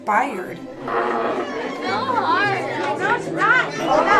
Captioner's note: classroom chatter and music